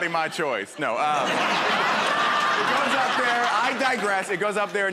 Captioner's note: laughter